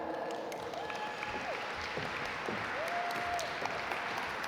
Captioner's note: audience applaud